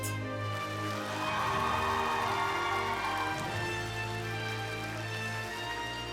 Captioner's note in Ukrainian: оплески